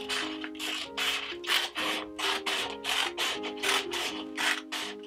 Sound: scissors cutting paper

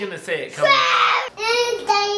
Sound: roars

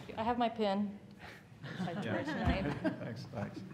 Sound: laughter

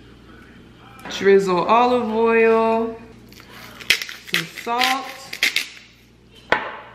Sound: grinding

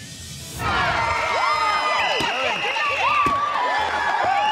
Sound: cheers and applause

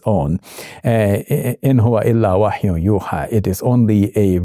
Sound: Shabir speaking Arabic

